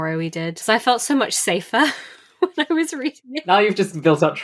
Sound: laughing

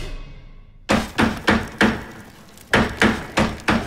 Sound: hammering

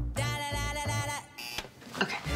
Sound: alarm buzzes

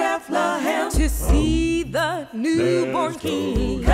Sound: humm

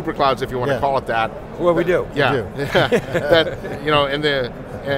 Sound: laughs

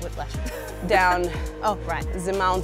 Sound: chuckles

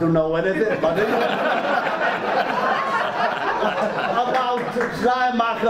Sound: audience drowns out

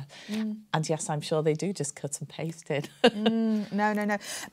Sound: laughs

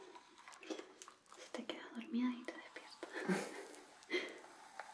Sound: laughs

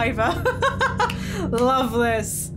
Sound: laughing

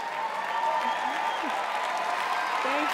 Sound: chuckles

